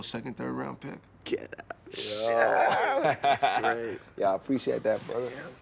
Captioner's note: Radar laughs